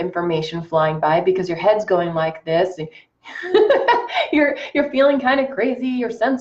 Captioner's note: laughs